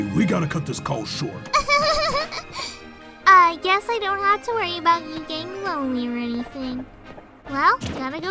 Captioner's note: laughs